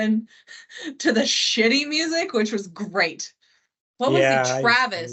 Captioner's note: chuckles